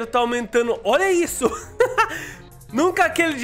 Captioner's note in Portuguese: risos